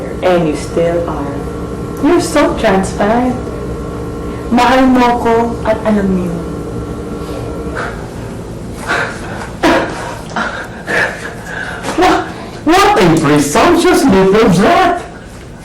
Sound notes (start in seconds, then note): 8.8 chuckles